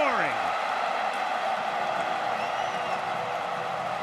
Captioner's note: cheering